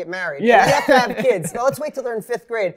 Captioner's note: laughs